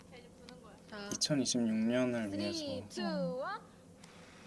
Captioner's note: blowing out candles